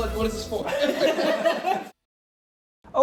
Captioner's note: everyone laughing